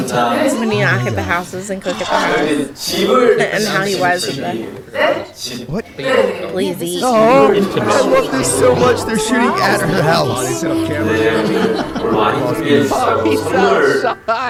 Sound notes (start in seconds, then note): 1.7 hesitant